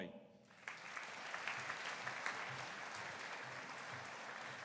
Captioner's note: audience applauding